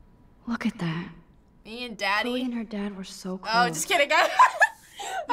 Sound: laughs

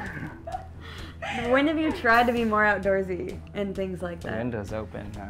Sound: laughter

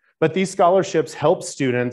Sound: none

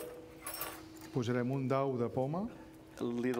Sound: speaking catalan

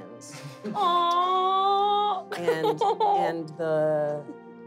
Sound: giggles

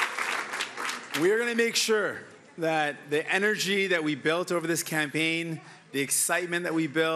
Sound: cheering

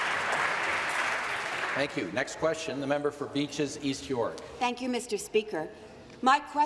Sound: applause

